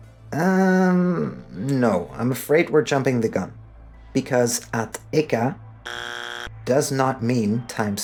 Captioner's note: buzzer noise